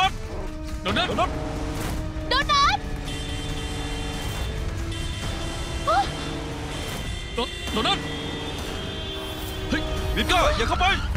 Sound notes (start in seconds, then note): 2.9 car horn honking